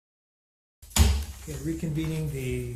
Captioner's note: gavel bangs loudly